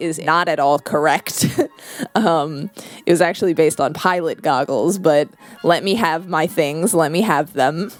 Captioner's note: laugh